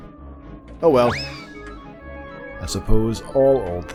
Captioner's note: cartoon swing sound